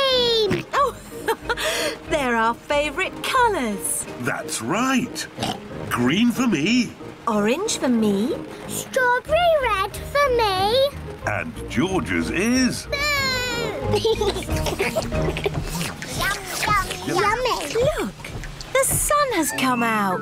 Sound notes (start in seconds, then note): 0.6 laughs; 5.3 oinks; 14.2 all slurp